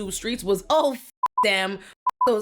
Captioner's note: beep